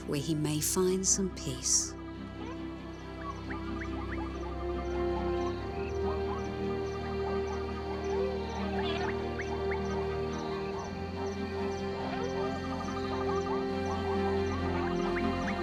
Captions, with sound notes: where he may find some peace. (gentle music) (various animal & bird sounds)